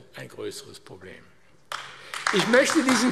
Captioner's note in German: Beifall AfD